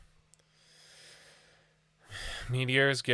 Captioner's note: deep breath